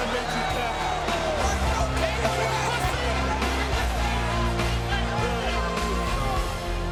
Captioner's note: crowd chattering; upbeat music